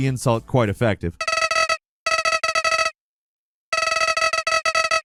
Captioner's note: message pinging